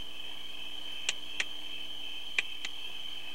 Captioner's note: finger snaps